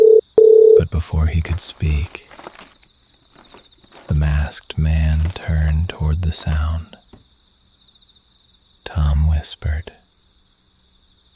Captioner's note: whispering